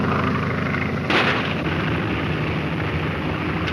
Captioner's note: gunshot; airplane engine roaring